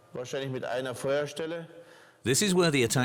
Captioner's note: speaking German